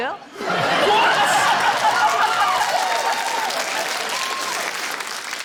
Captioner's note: laughter; cheering, applause, laughter